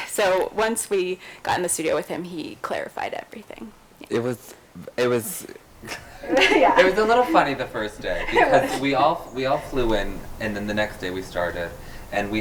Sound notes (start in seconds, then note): 5.8 laughs